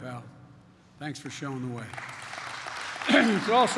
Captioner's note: applause